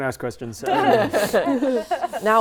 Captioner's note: laughing